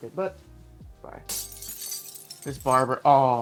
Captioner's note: glass breaking